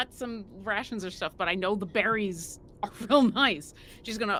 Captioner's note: chuckles